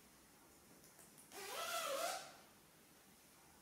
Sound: zips zipper

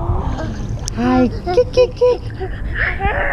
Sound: cooing

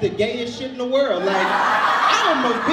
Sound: audience laughs

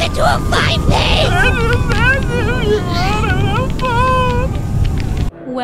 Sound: crying

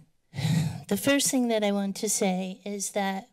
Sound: sighs

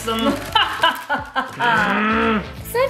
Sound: mum laughing; dad grunting

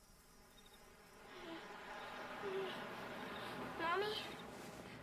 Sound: child whimpering

